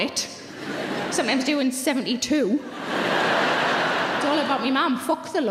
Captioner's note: audience laughing